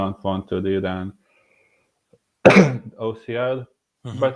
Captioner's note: cough